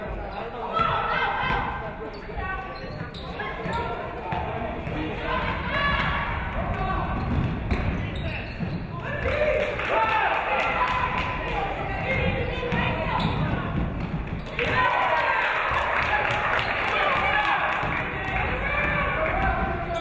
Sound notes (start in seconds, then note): 9.4 audience clapping; 14.4 audience clapping; 14.5 audience cheering